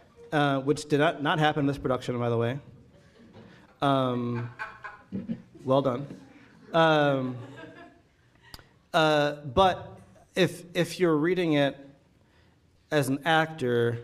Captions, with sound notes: which did not happen in this production, by the way. [audience laughing] Well done. [audience laughing] But if you're reading it as an actor,